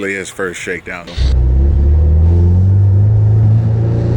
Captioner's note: car engine